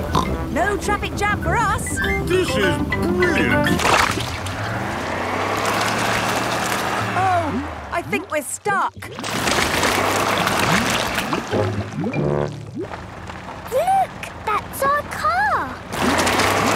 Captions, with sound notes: - Haha! No traffic jam for us! - This is brilliant! (sloshing, tires whirring) - Oh... I think we're stuck! (whirring) - Look! That's our car!